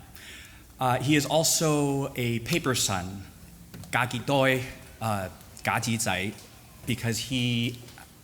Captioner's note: foreign language